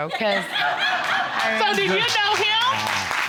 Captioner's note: audience laughing